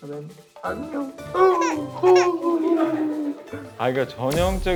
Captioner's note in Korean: 주먹 울음